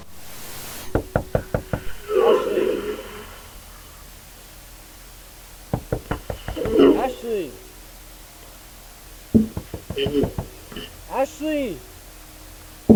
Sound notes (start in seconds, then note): 0.6 Ken continues to knock; 5.7 Ashley’s labored breathing; 11.5 tapping continues